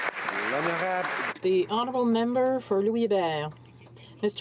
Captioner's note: applause